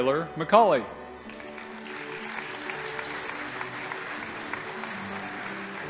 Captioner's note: audience applauding